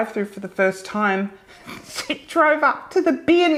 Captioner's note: chuckling softly